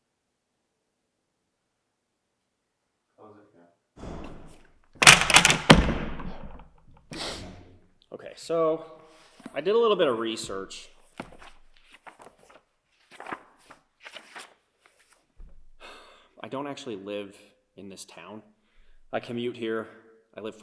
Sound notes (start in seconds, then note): 5.0 books thudding; 7.1 sniffs; 16.1 sighs